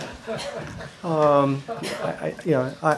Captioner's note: laughter